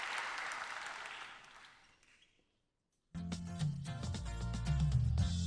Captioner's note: applause